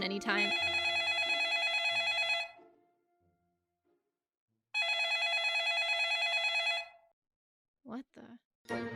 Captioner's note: phone rings